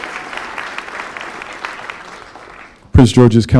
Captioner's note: applause